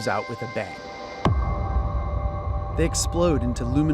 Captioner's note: bass thud